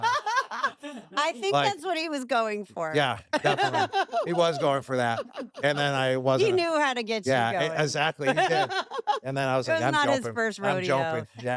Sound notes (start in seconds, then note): 8.2 laugh